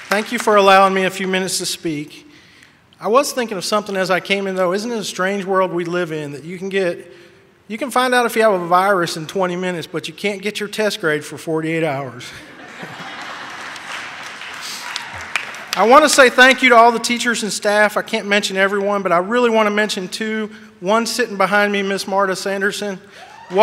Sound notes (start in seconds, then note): 12.3 audience laughs